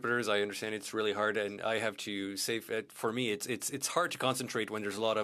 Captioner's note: speaking French